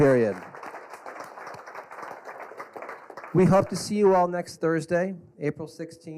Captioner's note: applause